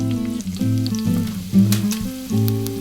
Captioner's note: sizzling sound